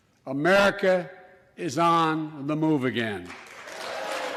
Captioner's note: applause